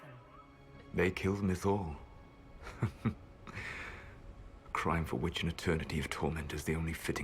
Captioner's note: chuckles